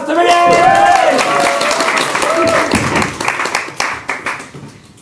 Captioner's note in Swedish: applåder och jubel